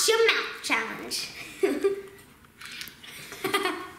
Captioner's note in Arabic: يضحك